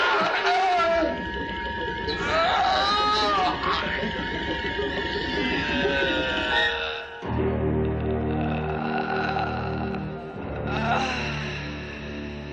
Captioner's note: death rattle